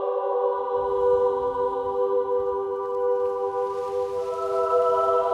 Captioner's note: wind whistling